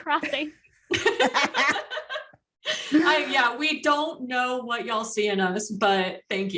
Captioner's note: laughter